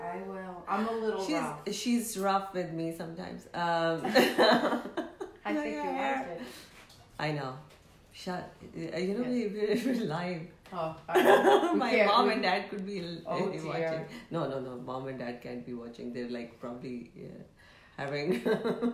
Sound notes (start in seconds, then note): 3.4 laughing; 11.5 laughing